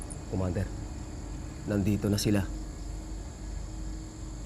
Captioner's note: speaking foreign language